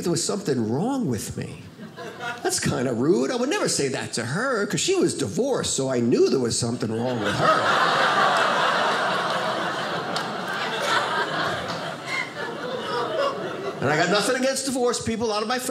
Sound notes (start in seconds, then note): 6.9 audience laughing